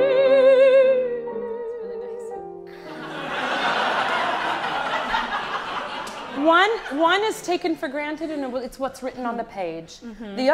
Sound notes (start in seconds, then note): 2.8 audience laughs